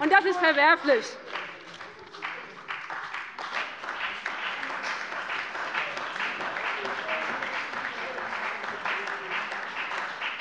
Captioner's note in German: Beifall bei dem BÜNDNIS 90/DIE GRÜNEN und der CDU